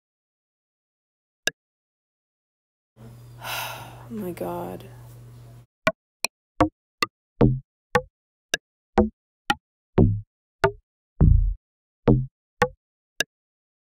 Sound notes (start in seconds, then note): 3.4 sighs